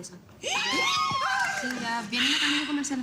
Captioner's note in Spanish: Exclamaciones